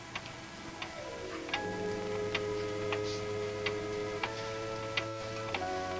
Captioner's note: clock ticks; tense music